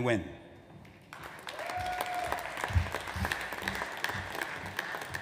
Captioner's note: audience applauds